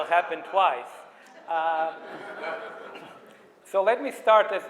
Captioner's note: laughing